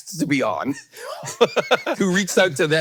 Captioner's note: Hank laughs